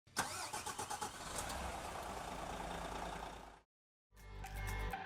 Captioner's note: car engine roaring